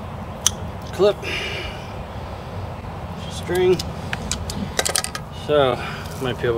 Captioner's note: snip Heard